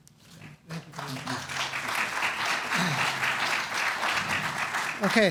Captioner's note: applause